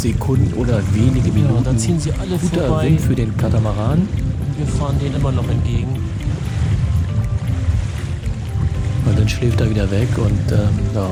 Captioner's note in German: Wind